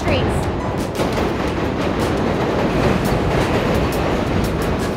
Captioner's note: train rumbling